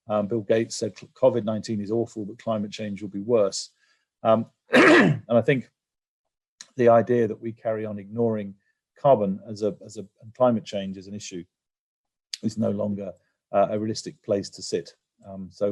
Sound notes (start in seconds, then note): 4.7 cough